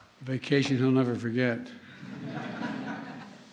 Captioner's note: laughter